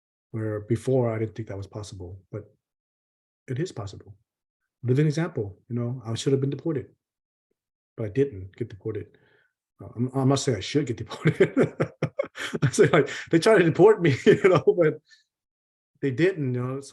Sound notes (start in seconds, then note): 11.1 laughs